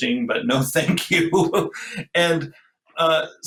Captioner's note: laughs